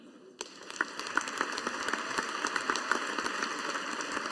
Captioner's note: audience applauding